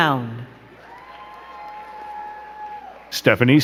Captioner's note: crowd cheering and clapping